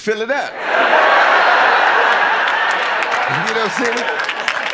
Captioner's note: audience laughing